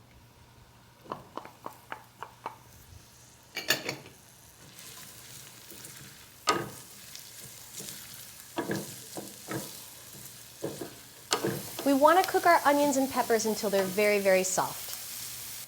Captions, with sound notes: [sizzling sounds] We want to cook our onions and peppers until they're very very soft.